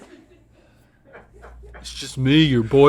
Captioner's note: crew laughs